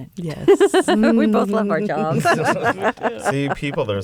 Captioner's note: laughter